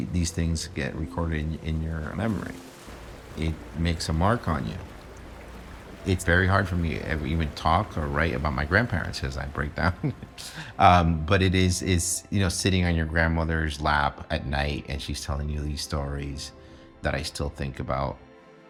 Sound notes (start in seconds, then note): 9.7 chuckles